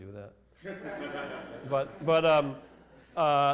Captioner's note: laughter